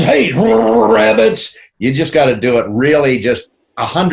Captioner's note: In Yosemite's voice; in normal voice